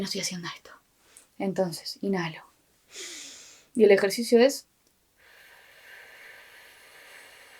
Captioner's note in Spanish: SOPLIDO contando hasta 10